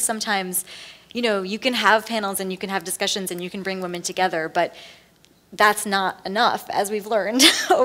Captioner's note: laughs